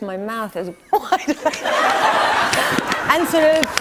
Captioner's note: laughter